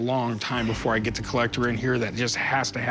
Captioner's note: none